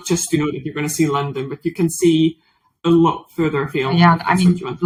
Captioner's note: faintly speaks